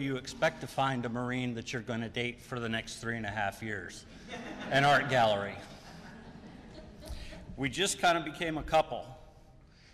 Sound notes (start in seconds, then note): 4.1 laughter